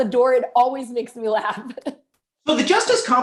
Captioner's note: laughter